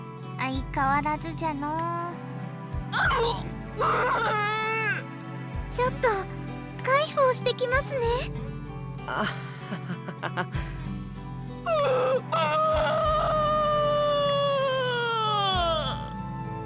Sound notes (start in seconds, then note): 3.7 bawl; 9.2 awkward laugh; 14.9 bawl